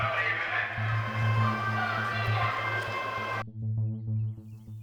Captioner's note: threatening ambient music; aggressive shouting